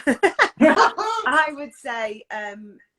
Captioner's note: laughs